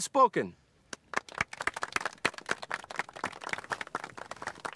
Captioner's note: applause